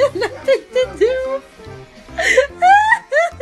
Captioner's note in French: rire